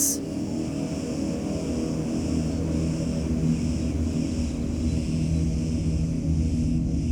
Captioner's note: tense music; insects buzzing